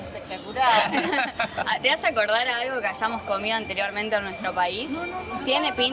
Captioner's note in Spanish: risas